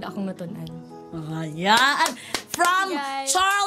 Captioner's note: clapping